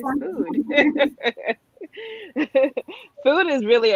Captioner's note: laughs